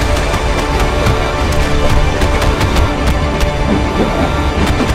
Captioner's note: punching sounds